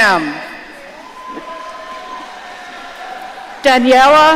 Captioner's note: audience cheering